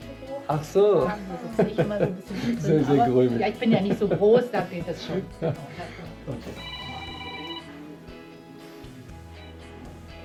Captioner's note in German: gelächter